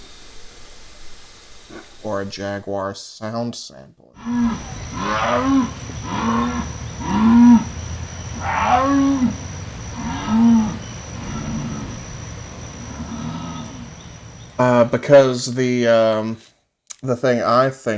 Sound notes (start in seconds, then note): 4.2 jaguar growling and roaring; 14.7 smacks lips